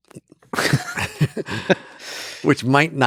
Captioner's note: Lex and Robin laugh